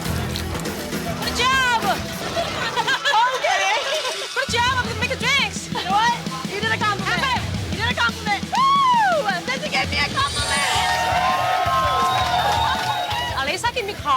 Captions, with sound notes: Good job. OK. Good job. You're making drinks. You know what? You did a compliment. You did a compliment. Sissy gave me a compliment! [CHEERING]